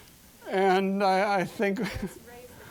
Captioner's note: chuckling